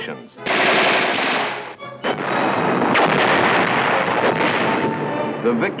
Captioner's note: gun Shots